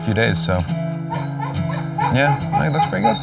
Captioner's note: dog barking